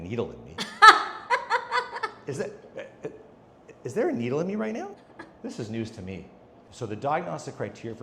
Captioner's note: laughs